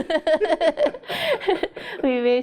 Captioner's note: laughs